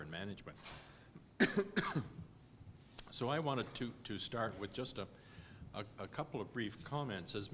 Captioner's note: cough